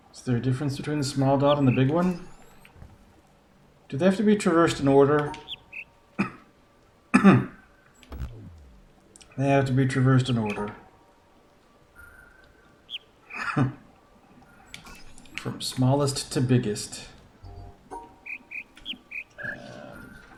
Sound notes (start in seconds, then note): 5.3 bird chirps ˥ ˩; 5.4 coughs; 12.8 bird chirps ˥ ˩; 13.3 coughs; 17.4 bird chirps ˧ ˧ ˥ ˧ ˩